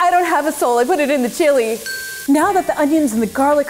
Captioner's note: bell dinging